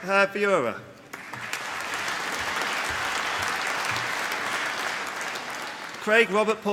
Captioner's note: applause